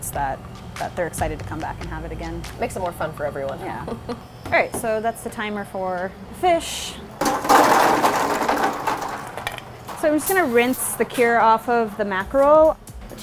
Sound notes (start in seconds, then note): 7.2 ice clattering